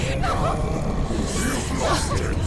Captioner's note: indistinct chatter